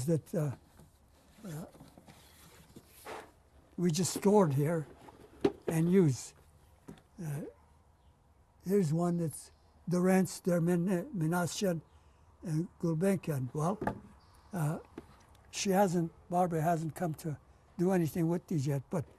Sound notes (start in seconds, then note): 0.8 pauses for 3 seconds; 9.9 non-english